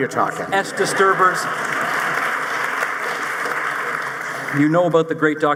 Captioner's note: audience applauding